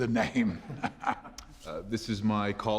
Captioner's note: laughing